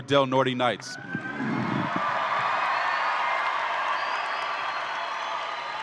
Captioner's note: audience applauds and cheers